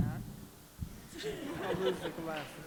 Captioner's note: laughter